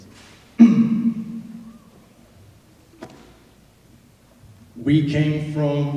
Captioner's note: clears his throat